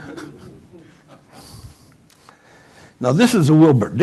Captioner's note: laughter